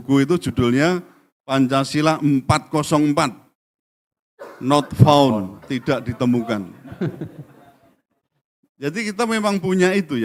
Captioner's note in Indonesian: tertawa